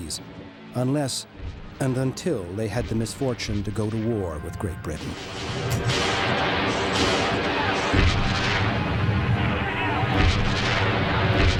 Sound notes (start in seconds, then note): 5.7 cannons rumbling; 9.4 men shouting